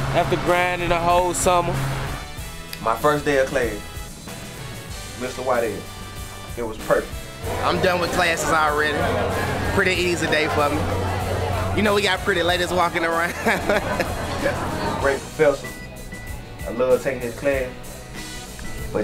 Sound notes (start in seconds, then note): 14.5 laughs